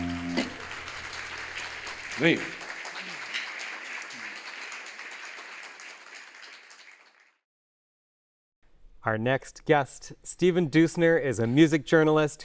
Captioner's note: applause